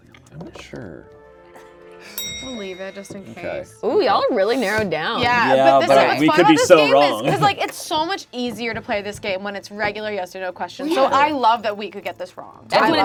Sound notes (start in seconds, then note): 2.2 bell clicking sound